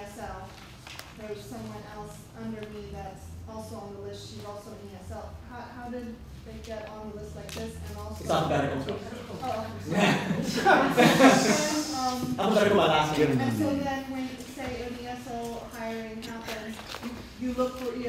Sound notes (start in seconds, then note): 9.4 laughs